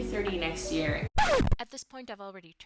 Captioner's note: scratch noise